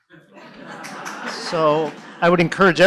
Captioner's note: laughter